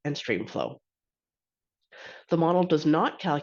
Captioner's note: inhales deeply